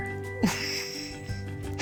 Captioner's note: laughs